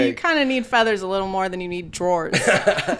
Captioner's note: laughing